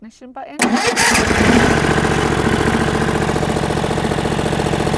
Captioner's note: engine roars and rumbles